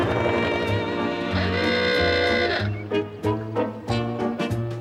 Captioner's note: horn